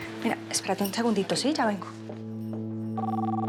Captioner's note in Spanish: suena el celular